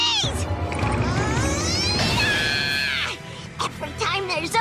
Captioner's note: Timmy screaming